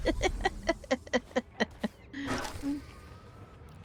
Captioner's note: laughter